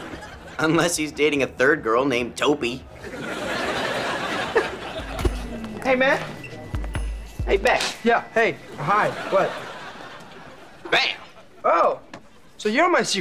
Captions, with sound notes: Unless he's dating a third girl named to be a Topi. [chuckles] - Hey, man. Hey, Beck. - Yeah? Hey. Hi. What? - Bam. - Oh, so you're my Secret Santa?